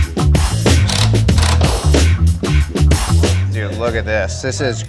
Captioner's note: machine whirring